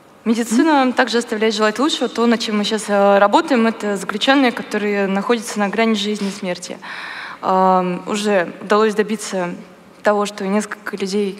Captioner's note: foreign Language